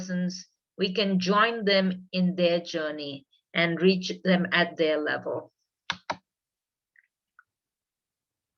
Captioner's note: keyboard sound